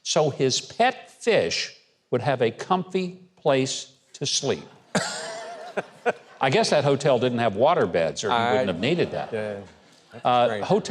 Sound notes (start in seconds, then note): 4.7 audience laughs; 4.8 laughs